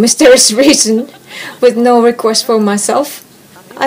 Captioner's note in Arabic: يضحك